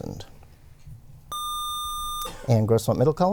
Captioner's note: buzzer